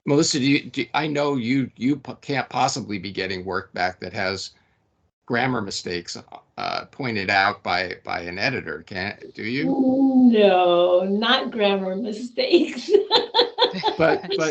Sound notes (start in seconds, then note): 10.3 laughing